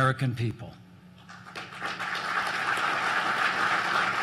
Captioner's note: applause